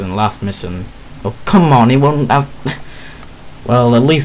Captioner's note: sigh